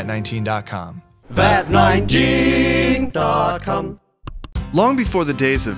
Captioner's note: click